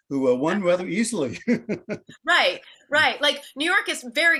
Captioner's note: laughs